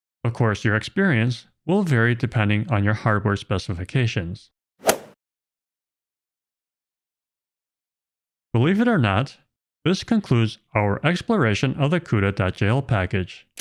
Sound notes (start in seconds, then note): 4.8 golf ball hit sound effect